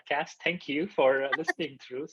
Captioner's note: laughing